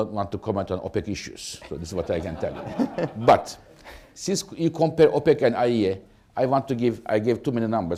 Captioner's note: laughter